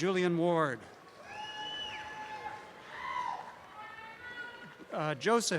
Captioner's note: cheering